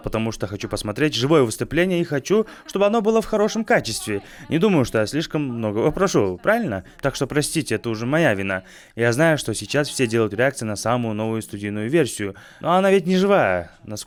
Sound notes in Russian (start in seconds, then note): none